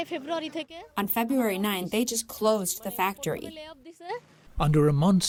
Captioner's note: through translator